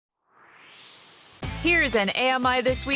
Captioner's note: swoosh